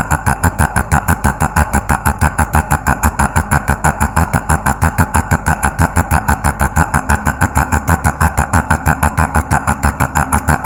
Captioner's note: laugh